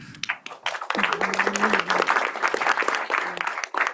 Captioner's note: applause